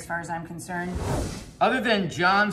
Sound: screen swooshing

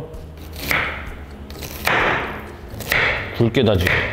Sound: real sound of cutting onions

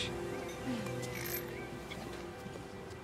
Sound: coins clinking

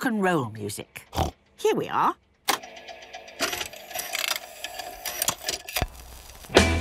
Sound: clicks, whirring

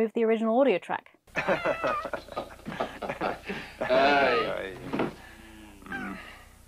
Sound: two overlapping laughs

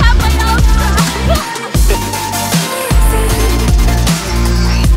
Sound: woman laughing

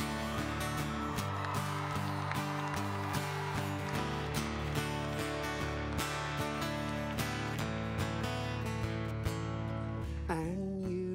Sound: cheers and guitar strums

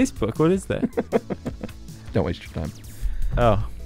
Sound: laughs

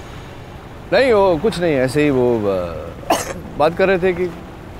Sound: coughs

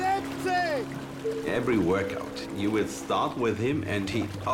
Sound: in English

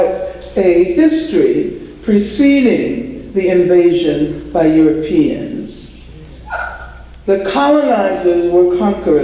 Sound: audience cheer

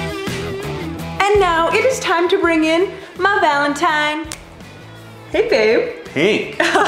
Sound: snap

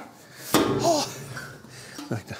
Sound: he breathes a sigh of relief

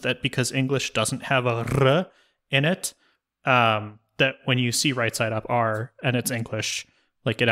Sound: rolled-r sound

